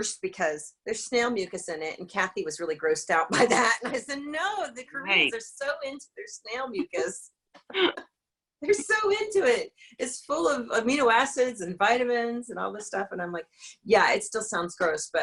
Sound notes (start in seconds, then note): 4.1 laughs